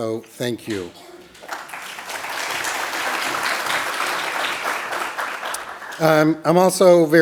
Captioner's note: applause